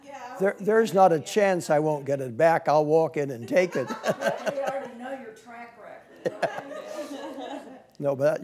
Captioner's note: laughing